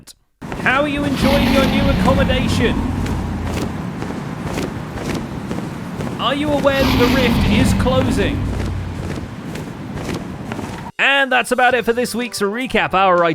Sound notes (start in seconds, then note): 3.9 roars; 4.4 flaps wings loudly; 9.9 roars